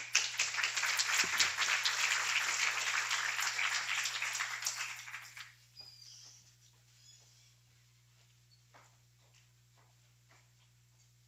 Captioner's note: applause